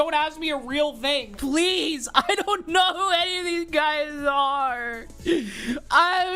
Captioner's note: sobbing